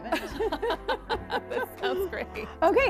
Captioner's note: laughing